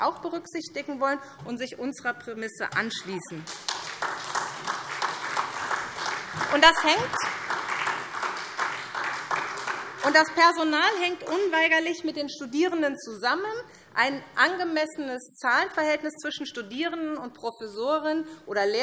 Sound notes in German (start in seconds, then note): 3.4 Beifall SPD